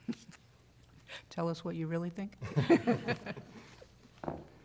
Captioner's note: laughter